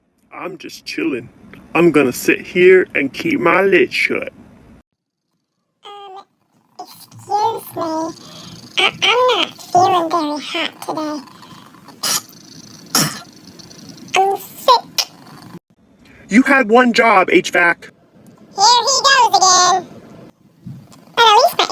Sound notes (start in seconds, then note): 11.7 cough cough